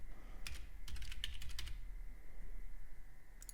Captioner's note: typing